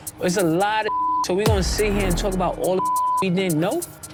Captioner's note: beep